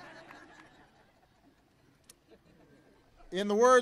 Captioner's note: laughter